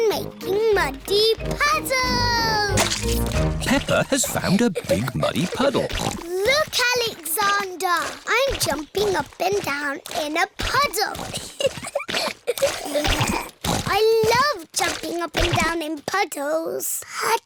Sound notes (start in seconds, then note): 4.8 snorts; 12.1 giggling